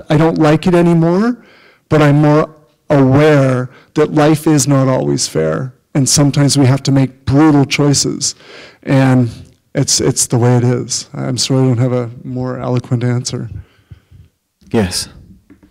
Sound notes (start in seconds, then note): none